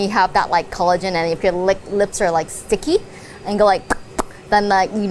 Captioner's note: smacks lips